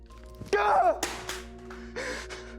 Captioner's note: phone clatters; Jeremy screams; Jeremy breathing heavily